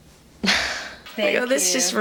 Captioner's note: laughs